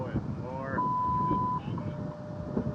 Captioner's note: 1:31 PM CDT beep